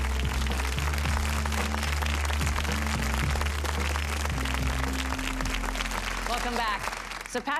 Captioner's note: audience applause